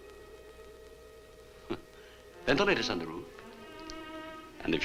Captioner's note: chuckles